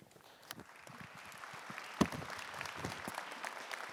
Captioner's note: audience applauding